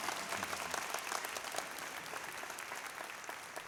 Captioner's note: applause